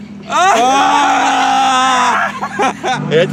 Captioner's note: laughter